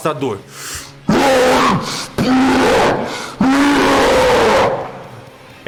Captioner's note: roar